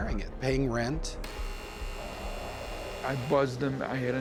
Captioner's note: door buzzer